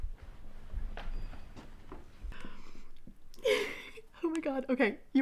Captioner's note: giggling